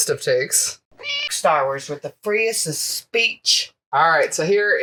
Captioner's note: meow